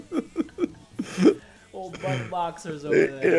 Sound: laugh

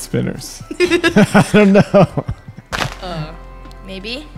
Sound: laughs

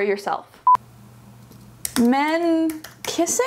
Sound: beep

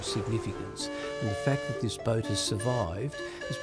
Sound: whistle blowing

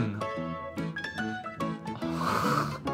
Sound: sniffs

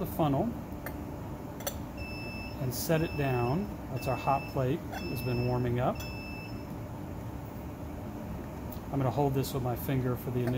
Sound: beeping

